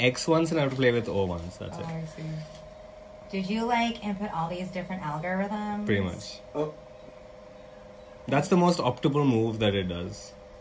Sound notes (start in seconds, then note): 3.0 in an american accent